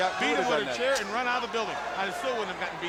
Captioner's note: strap thudding